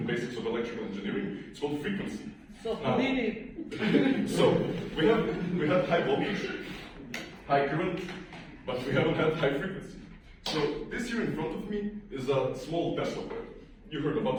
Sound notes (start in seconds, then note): 3.5 laughter